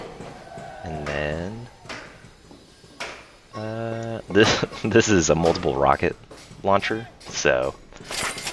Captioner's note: laughs